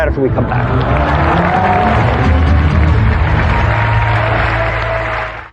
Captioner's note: dramatic sound effects; applause